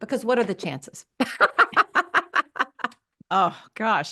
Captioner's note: laughs